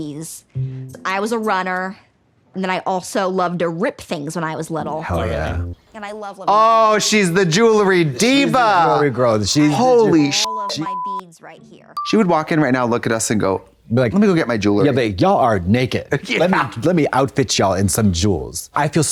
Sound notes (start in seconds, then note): 10.4 beep